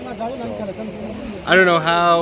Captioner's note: men talking in foreign language